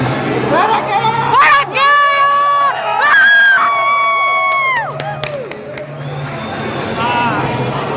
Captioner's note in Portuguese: Gritos, muitos gritos